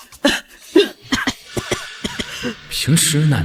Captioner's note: cough cough cough